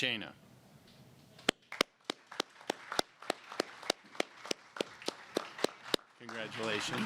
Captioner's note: applause